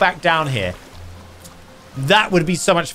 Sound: water rushing; lips smacking

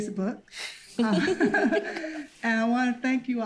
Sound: giggles

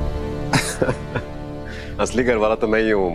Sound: laughing

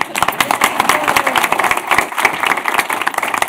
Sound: applause

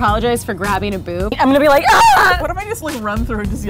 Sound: scream

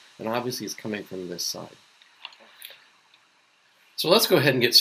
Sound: water splashing

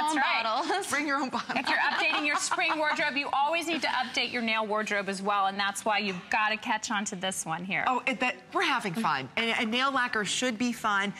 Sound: laughter

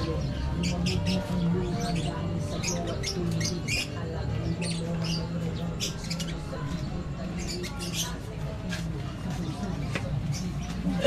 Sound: birds chirping

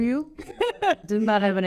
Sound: laughs

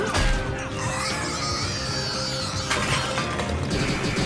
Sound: screeching

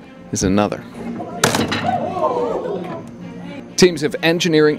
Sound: bridge cracks

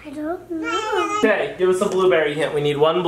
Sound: babbles

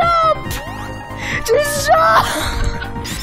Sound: laughing; distant laughter

